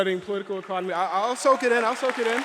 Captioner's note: audience applauds